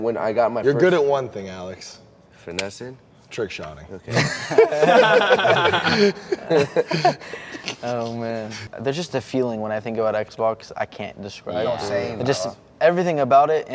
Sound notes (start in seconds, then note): 4.1 gamers laughing